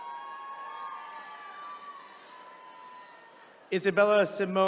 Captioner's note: attendees cheering